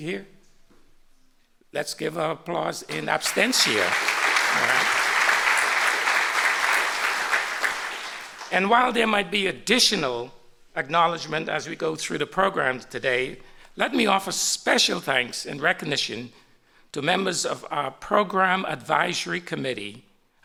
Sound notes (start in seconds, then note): 2.9 applause